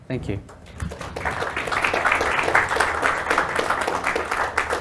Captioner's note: applause